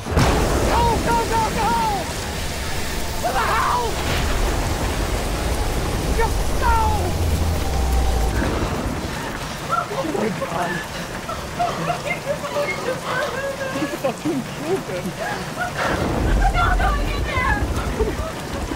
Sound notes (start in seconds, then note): 5.2 thunder clap; 7.9 deafening rain; 9.7 hysterical; 11.9 cries/unintelligible